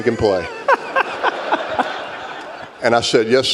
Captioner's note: laughter